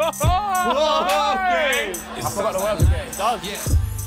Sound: laughing

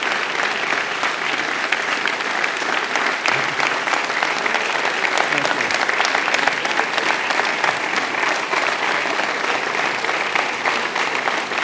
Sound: applause

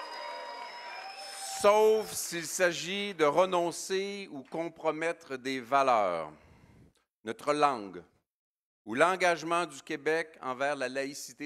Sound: cheering

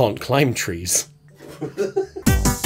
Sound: laughter; upbeat music

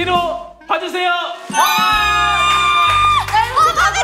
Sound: squealing

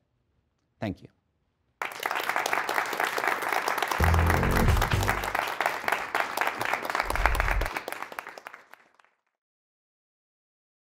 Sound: applause

